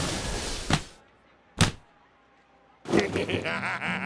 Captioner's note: splat